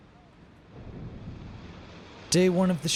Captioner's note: distant waves crash